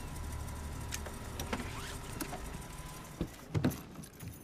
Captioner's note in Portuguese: motor desliga